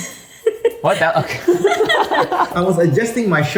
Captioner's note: everyone laughs